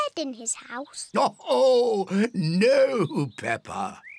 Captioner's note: laughs